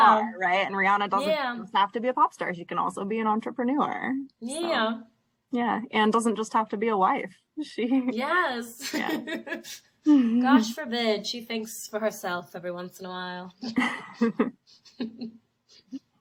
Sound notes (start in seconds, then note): 8.8 laughs; 13.6 both laugh